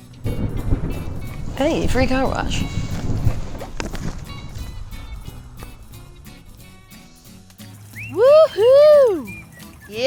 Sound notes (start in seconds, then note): 0.9 thunder; 2.9 upbeat music